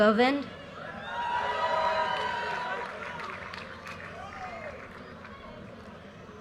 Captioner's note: audience cheers and applause